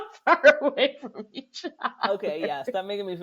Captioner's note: laughter